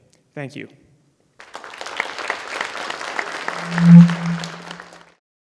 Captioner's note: applause